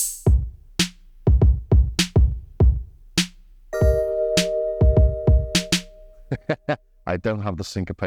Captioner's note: laughs